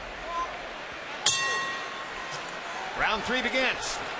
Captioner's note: bell rings